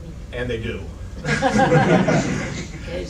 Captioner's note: laughter